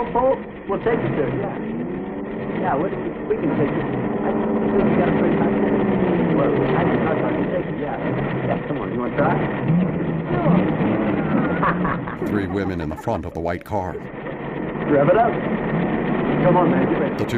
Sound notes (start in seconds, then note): 3.5 engine revving; 11.4 both laugh